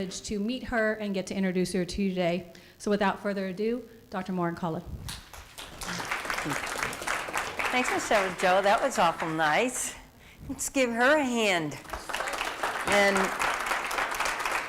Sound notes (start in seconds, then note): 5.1 applause; 11.7 applause